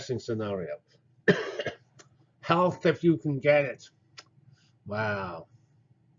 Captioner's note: cough